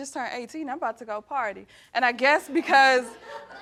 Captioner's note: all laughing